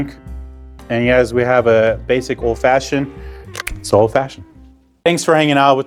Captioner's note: can cracks